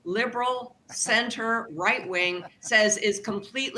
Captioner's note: laughter